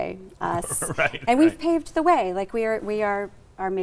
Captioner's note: laughing